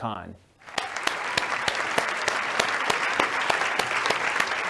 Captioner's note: audience clapping